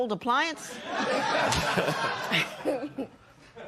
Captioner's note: laughter